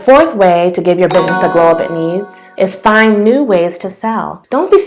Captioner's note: bell sound